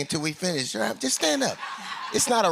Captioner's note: laughter